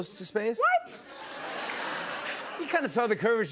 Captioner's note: laughter